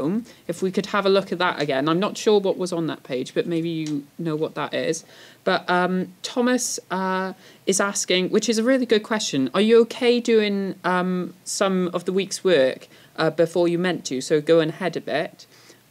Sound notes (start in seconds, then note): none